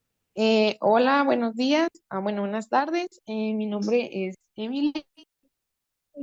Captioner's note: speaking in foreign language